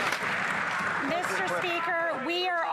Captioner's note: some Applause